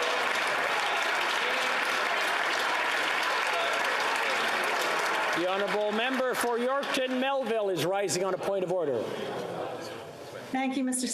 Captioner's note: applause